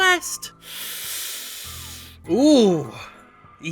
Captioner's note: inhaling deeply